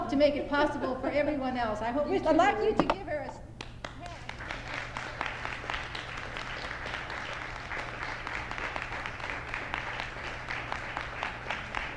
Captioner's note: applause